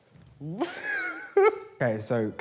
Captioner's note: laughs